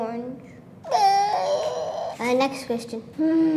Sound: makes squawking sounds

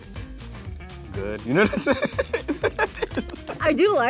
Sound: laughter

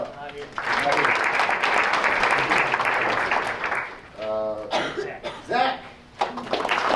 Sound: applause

